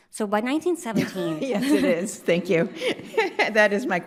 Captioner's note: laughs